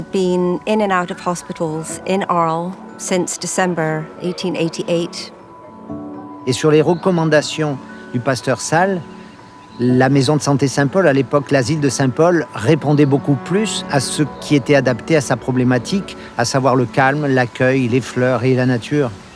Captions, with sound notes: He had been in and out of hospitals in Arles since December, 1888. (speaking in foreign language) (speaking in foreign language continues)